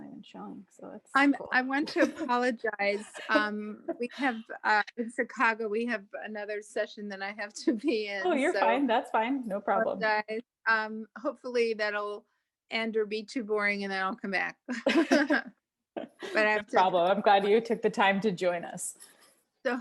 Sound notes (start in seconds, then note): 14.7 both laughing